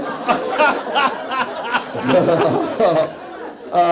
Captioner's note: Zach laughs